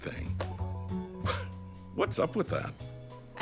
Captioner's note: chuckles